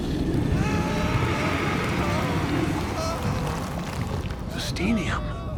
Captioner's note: people screaming